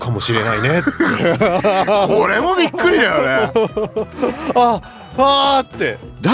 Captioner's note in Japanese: 笑い